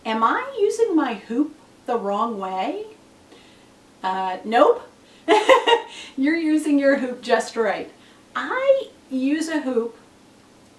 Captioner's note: laughs